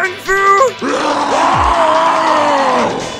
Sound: all roaring

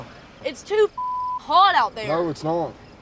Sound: beep

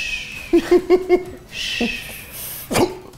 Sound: laughs

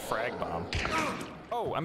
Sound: pained grunt; gunshot

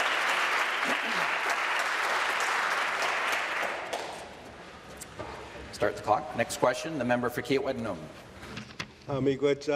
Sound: applause

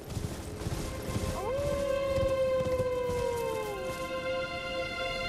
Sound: howling

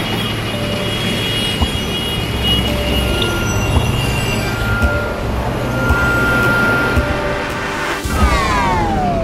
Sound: cityscape sounds

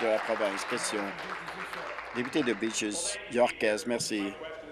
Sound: applause

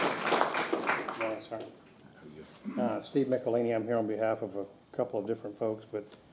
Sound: applause

